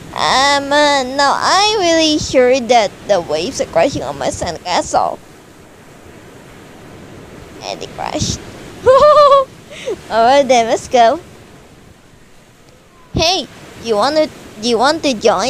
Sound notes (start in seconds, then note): 8.8 Hyoga: *laughing